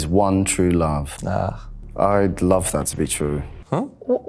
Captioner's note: grunts